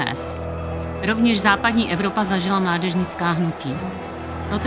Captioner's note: hlučící dav